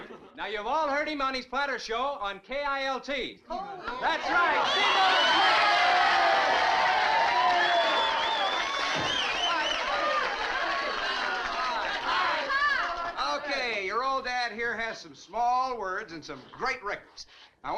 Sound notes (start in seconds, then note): 0.0 crowd gasping; 5.8 crowd cheering